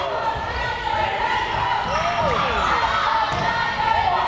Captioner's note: players shouting